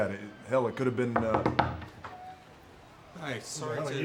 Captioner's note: knuckles tapping